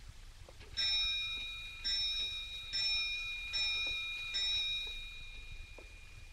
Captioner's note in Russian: часы звонят